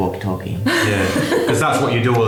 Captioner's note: laughing